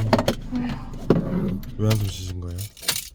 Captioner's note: sighs